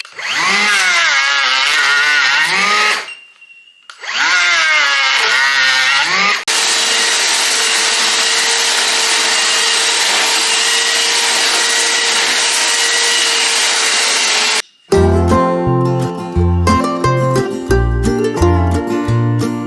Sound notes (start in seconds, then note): 0.0 trimming tool grinds; 6.0 electric sander surges